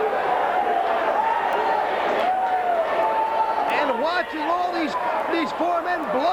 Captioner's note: crowd chatter